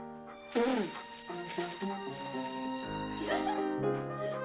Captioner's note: spits; Buddy Laughs